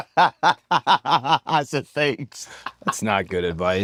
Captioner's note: laugh